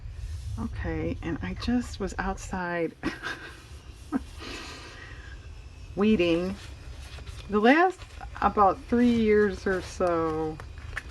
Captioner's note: laughs